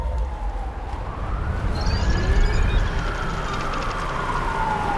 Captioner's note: police sirens in distance